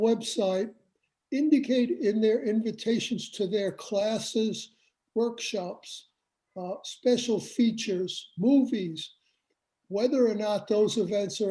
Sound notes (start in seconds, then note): none